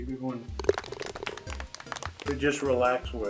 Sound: ball falls in cup, applause

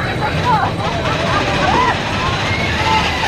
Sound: creaking

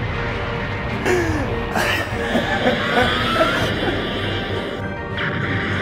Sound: gasps; laughs very slowly

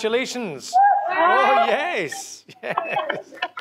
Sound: cheering

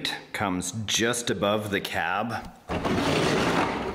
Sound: drilling

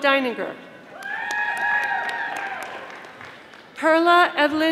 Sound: audience applauding

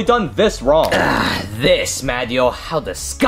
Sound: groans

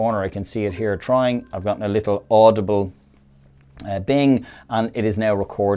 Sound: ringing

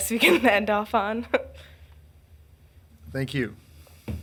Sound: woman laughs

